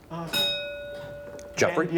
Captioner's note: bell rings